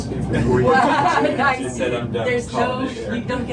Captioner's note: chatter